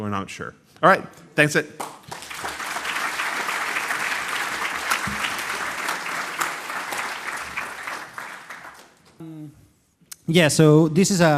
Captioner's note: applause